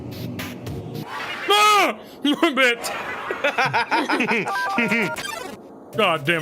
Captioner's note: yells; laugh